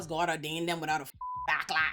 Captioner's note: beep